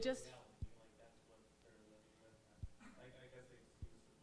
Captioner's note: parent speaking softly